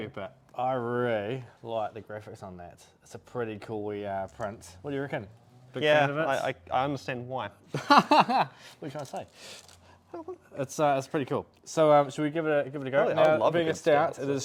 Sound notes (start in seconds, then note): 7.7 laughs